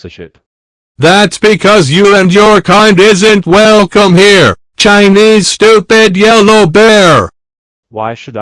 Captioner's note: in angry mode